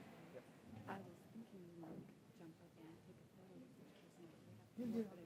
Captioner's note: speaks faintly